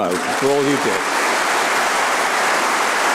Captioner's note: applause